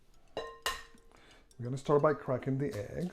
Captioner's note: cracking egg